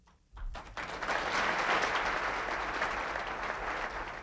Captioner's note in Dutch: publiek applaudisseert